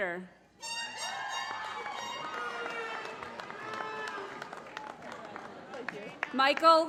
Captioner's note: applause